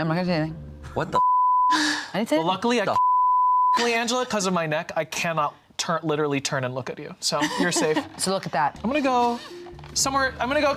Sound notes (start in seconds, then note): 2.9 beep